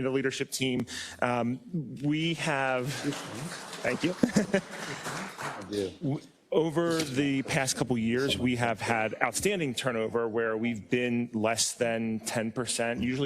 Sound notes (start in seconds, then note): 2.8 applause; 4.0 laugh